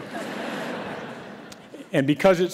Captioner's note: audience laughs